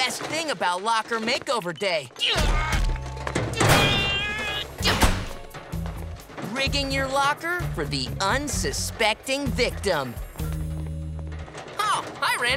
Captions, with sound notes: about Locker Makeover Day. [straining] Rigging your locker for the unsuspecting victim. Oh, hi, Randy.